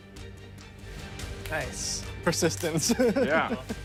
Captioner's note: laughing